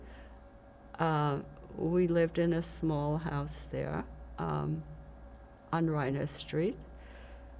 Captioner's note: hebrew